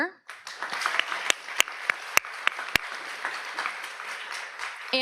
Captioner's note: audience applauds